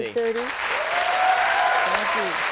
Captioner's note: audience cheering